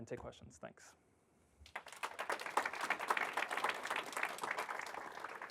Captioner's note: applause